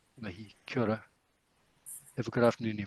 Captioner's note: speaking in foreign language